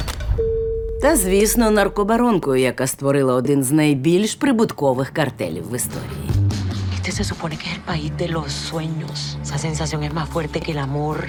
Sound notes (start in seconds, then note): 6.8 Griselda, in Spanish